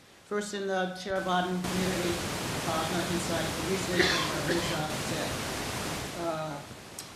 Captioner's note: static hissing drowns out speaker